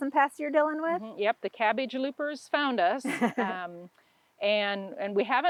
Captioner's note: laughs